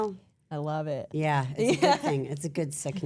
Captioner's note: laughs